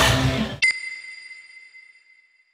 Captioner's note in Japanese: ピックアップ 効果音